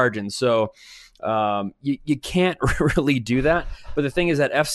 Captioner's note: chuckles